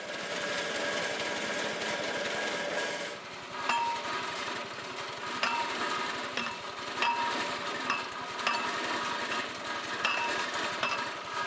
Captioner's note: mechanical noise